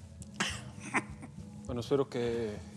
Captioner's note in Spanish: risas